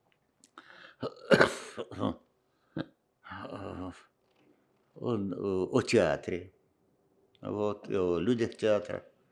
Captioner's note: coughing